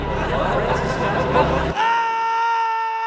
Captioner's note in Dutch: Willekeurige stemmen die bewegen